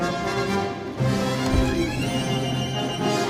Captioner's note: punch thud